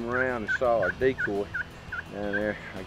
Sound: laughing

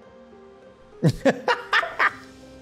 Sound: laughs

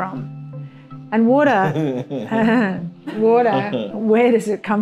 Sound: chuckling; chuckles

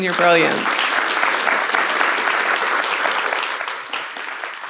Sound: audience clapping

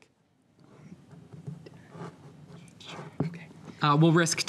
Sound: teammates whisper

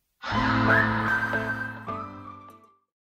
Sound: whistling

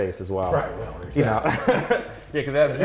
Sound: laughs

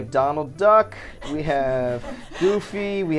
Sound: laughs

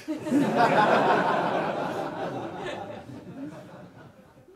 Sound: audience laughs

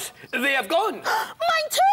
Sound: gasp!

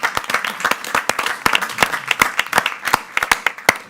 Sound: group claps

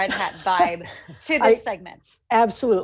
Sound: giggling

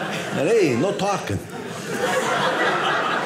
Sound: audience laughing

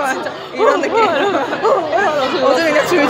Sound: imitates crying sound

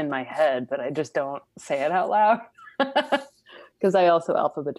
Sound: laughs

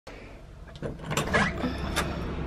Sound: door opens

